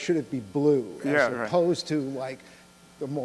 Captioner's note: voiceover